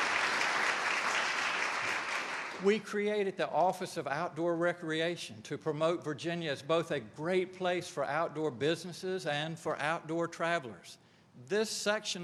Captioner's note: applause